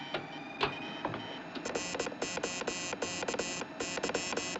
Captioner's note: Clique, Zumbido